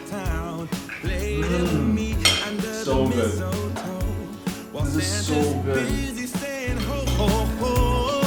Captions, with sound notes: (moans) So good. This is so good.